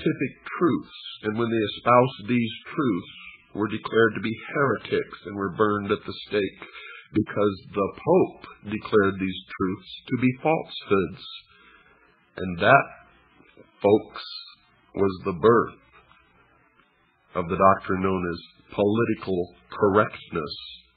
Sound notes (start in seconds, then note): none